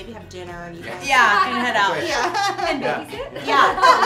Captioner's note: chuckles